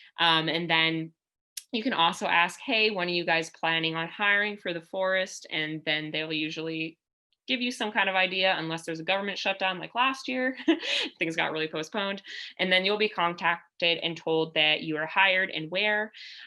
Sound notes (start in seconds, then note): 10.5 laughter